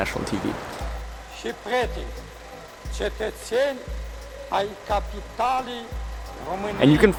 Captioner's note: foreign language